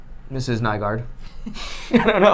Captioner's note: laughing